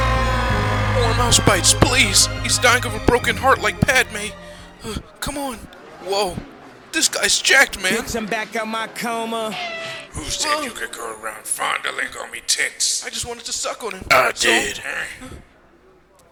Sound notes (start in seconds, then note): 0.0 sorrowful scream